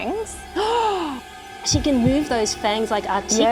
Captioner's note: gasps